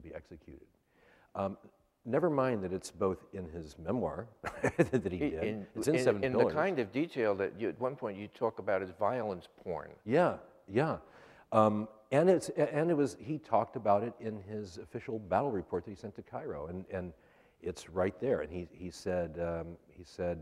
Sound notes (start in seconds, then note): 4.4 laughs